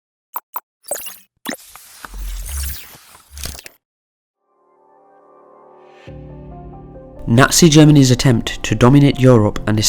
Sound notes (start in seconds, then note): 0.8 digital beeping; 4.5 calm electronic music